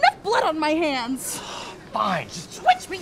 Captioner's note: sighs